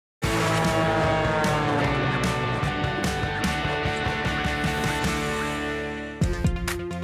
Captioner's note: upbeat music; airplane whooshing